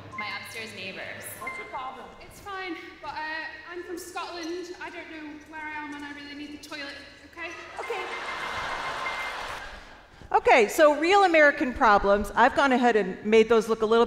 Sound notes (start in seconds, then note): 7.7 audience laughs